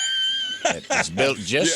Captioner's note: laughing